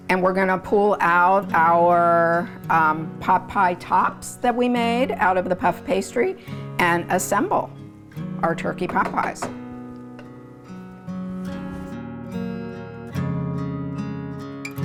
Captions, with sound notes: And we're gonna pull out our pot pie tops that we made out of the puff pastry and assemble our turkey pot pies. (spoon banging) (gentle music continues)